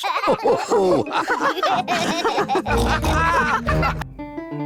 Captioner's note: all laugh